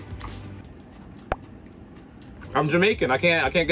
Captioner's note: pops